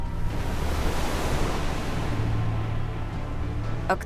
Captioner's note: waves crashing